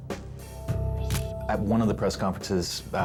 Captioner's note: camera shutter click